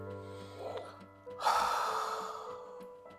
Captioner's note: sigh